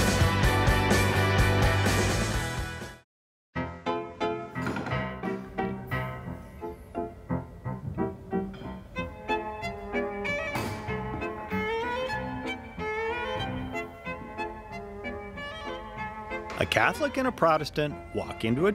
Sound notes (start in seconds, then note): 0.0 upbeat music; 6.3 classical music; 6.3 pews clicking and clanking; 11.2 classical music; 15.6 classical music